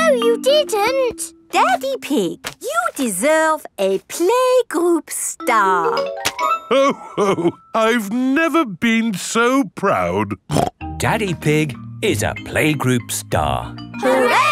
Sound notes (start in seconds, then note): 10.5 snorts